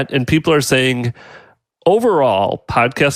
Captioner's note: none